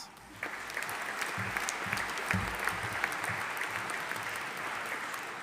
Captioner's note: audience applauding